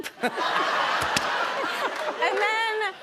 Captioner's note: laughter